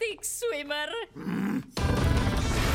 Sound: growls

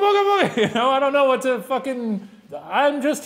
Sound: laughing

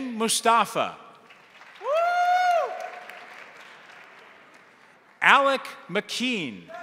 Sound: crowd applauding; crowd cheering

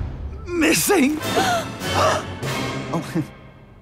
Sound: all gasping; chuckles

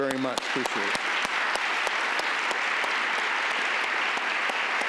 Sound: applauding

